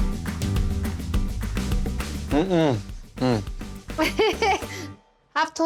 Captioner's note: laughs